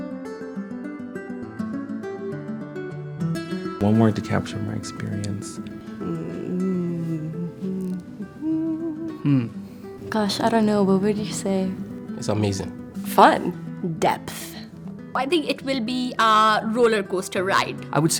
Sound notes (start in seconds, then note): 8.1 humming